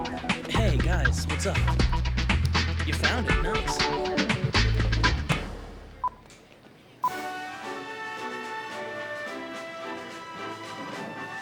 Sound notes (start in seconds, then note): 5.8 beeping; 7.0 upbeat instrumental music